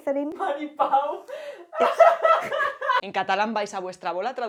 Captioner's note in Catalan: Ríen